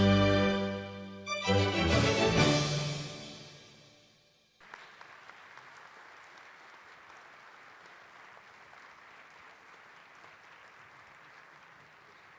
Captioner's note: cheers and applause